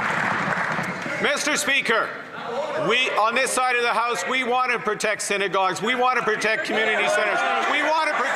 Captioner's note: some Applause